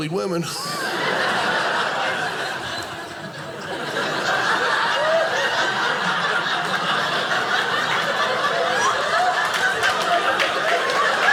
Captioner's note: audience laughing